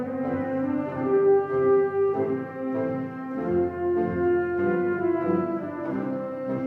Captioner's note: none